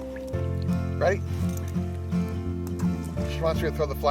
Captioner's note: ball splashes